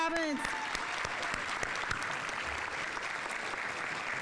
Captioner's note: audience applauding